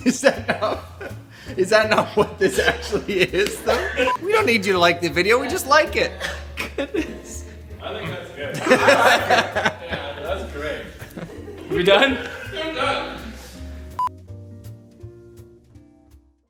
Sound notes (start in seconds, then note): 8.5 both laugh